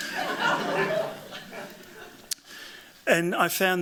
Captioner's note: laughter